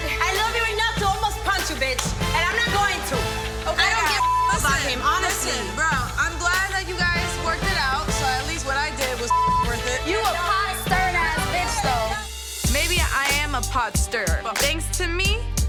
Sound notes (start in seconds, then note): 4.0 beep; 9.2 beep